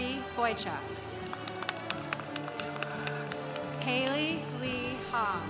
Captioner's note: congregation applauding